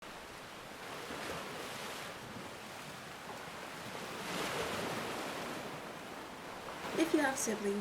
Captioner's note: waves crashing